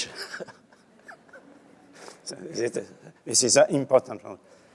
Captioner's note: laughs